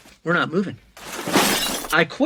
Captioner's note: glass shatters